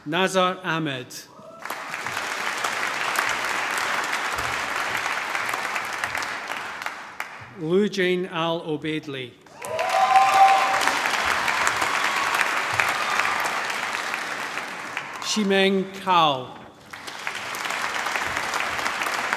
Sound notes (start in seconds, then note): 1.4 cheering, applause; 9.5 cheering, applause